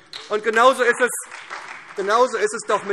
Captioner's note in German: Beifall SPD